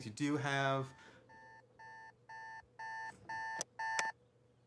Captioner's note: alarm beeping; alarm off